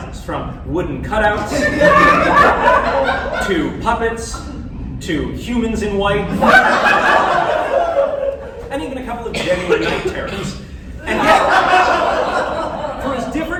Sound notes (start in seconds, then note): 3.9 laughter; 6.3 laughter; 12.0 laughter, fear